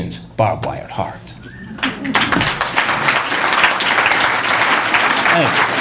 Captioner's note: applause